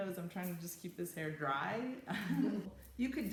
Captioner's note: chuckles